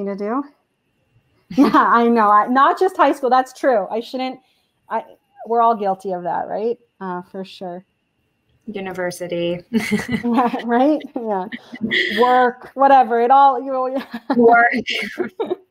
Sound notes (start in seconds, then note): 9.8 chuckle